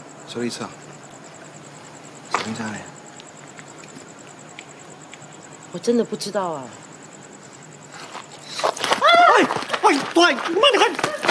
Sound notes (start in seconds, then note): 8.9 MONICA screams